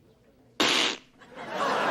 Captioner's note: the worst fucking fart sound known to man; audience laughter